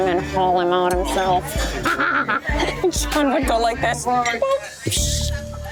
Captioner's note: laughs